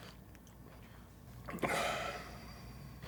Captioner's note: chuckles softly at his own thought